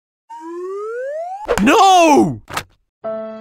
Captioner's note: slide whistle; splat; sad violin music